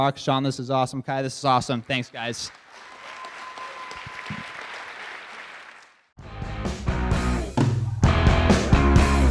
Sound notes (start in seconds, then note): 1.7 audience Claps; 6.2 outro Music